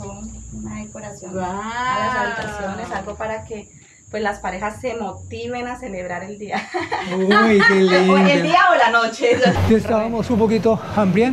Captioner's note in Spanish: Risas